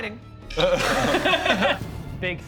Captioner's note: nervous laughter